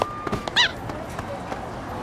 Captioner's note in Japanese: さえずり